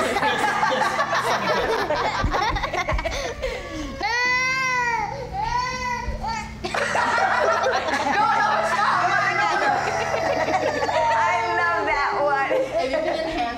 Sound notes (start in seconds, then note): 3.0 laughing; 4.6 crying; 6.6 laughing